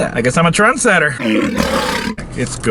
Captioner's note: lion roars